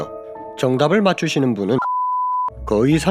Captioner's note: beep